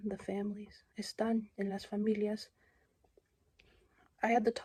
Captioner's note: non-english speech